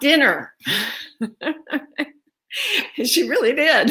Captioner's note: laughing